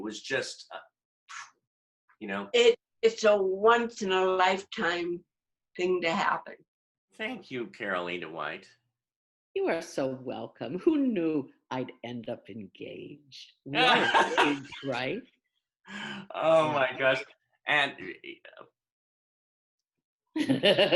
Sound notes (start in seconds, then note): 15.1 laughter